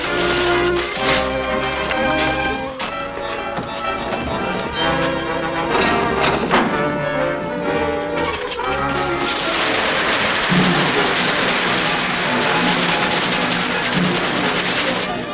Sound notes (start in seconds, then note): 0.2 dramatic orchestral music; 6.1 lever creaks; 9.7 ominous music; 9.7 water splashes